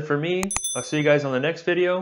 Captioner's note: bell rings